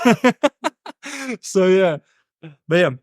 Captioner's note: laughing